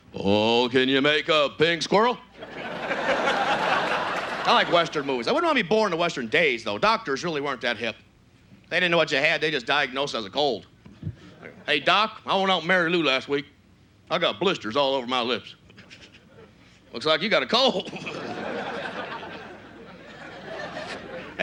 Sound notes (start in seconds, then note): 2.4 audience laughs; 4.4 normal voice; 11.5 southern accent; 15.7 stifles a derisive laugh; 17.7 stifles a laugh